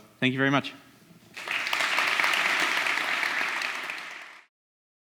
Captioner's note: audience clapping